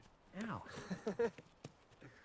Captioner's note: Risas